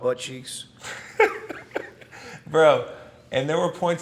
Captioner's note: Chris laughs